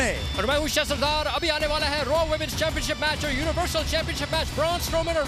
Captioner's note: speaking in Hindi